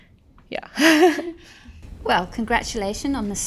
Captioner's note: laughing